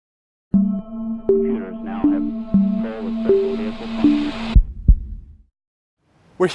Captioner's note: intro sounds with heartbeat